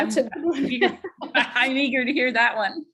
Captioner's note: laughs